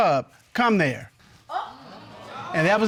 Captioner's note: audience exclaims